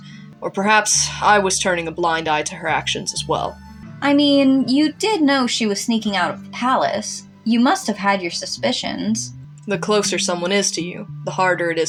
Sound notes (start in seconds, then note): none